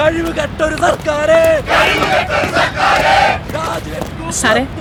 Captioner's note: protesters Sloganeering